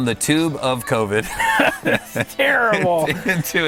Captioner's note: laughing